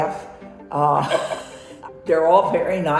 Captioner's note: laughs